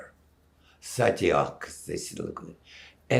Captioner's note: non-english